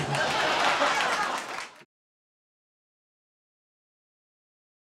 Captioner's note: audience laughing